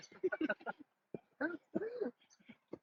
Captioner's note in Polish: śmiech